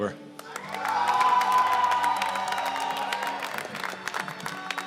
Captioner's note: cheers and applause